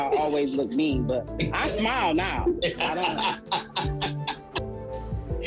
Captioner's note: laughs